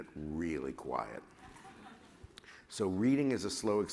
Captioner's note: laughter